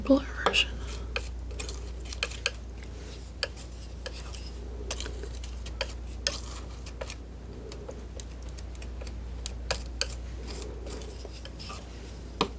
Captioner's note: scissors snipping